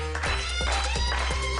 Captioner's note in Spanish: Palmadas